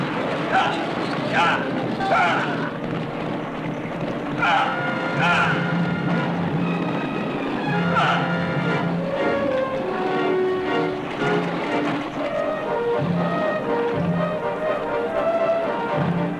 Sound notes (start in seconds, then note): 5.2 grunting; 12.6 dramatic music